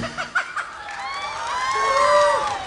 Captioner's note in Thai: กรี๊ด